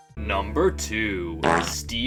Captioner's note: fart